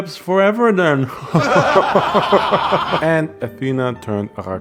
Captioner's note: evil laugh